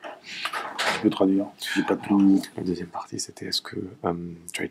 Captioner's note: non-english speech